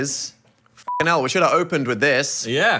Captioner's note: beep